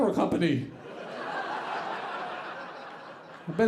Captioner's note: audience laughing